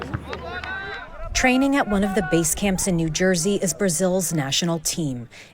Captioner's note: crowd cheering